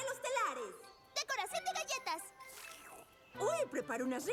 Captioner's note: slurp